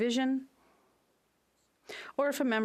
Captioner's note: speaking French